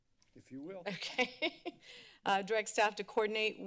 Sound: giggles

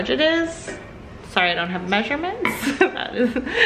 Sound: laughs

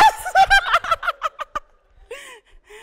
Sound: laughing

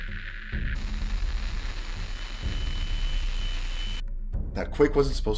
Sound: radio static

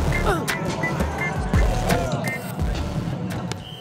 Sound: player grunts

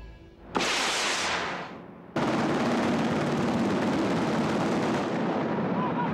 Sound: guns firing and explosions

